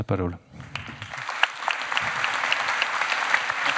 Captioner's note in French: Applaudissements